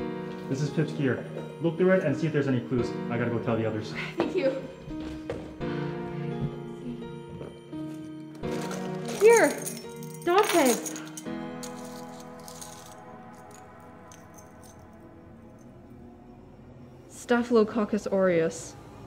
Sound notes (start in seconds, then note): none